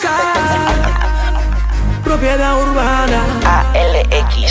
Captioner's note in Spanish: risas